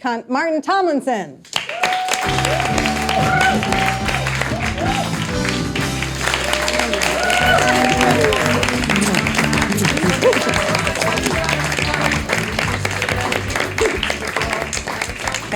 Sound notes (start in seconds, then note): 5.6 audience applauding, cheering; 12.3 upbeat music